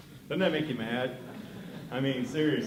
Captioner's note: laughter